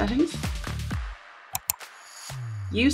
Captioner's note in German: Klicken